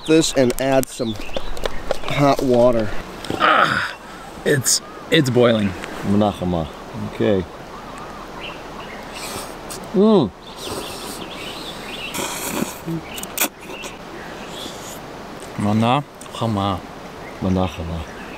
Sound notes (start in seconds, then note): 3.2 exclaims; 12.0 slurping